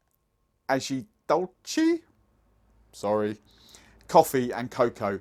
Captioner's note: speaking foreign language